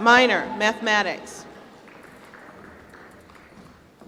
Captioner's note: applause